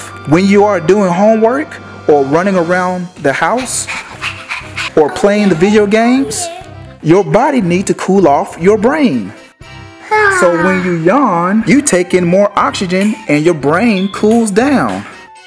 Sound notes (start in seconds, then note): 3.3 breathing heavily